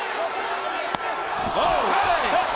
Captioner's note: foot thwacks